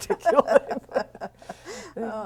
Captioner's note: laughter